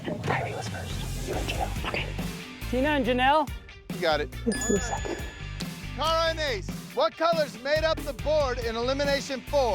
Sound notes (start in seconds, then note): 4.5 bell chimes